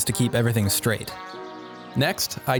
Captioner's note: birds chirping